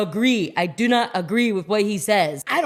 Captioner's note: none